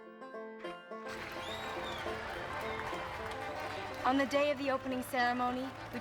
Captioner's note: whistles and cheers